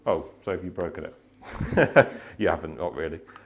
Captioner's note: laughter